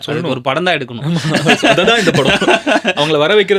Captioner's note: laughter